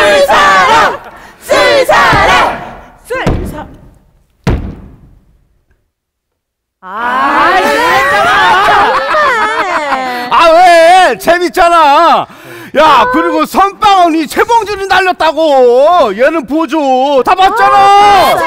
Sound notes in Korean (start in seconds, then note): 2.3 탁자 세게 내리치는 소리